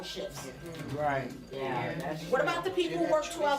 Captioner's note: crowd